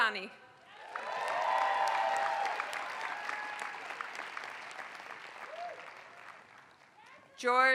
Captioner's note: applause